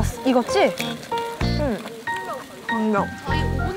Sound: nom nom

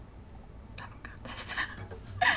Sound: laughs

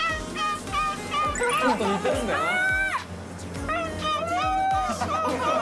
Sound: is imitating the sound of seagulls

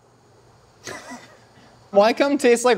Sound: laughs

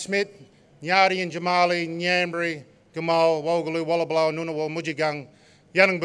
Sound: non-english speech

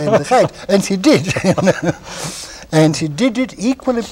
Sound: laughter

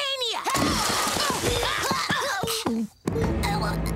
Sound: grunting and yelling; gagging

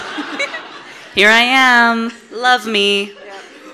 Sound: audience laughing; giggles

